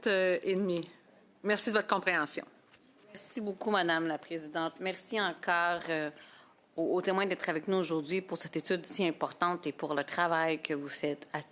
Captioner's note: speaking in French